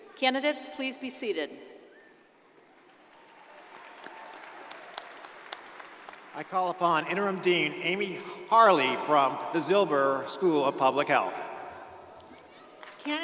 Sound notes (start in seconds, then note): 2.7 crowd applauding